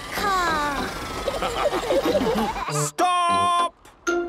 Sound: all laughing

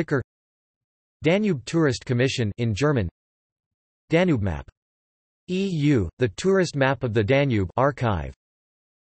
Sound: in German

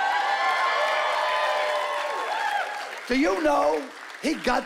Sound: cheering and applause

